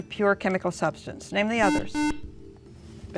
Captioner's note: beeping